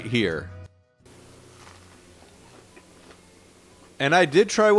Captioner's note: light crunching